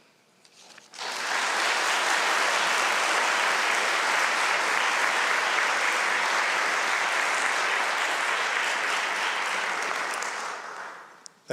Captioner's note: applause